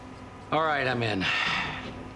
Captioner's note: sighing